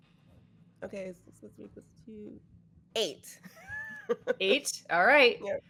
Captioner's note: laughs